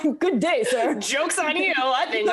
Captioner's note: laughs